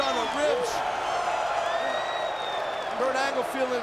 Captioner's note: audience cheering and clapping